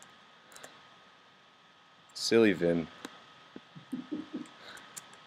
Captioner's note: some laughs